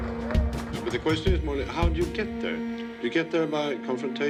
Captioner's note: applause